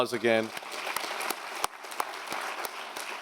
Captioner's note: applause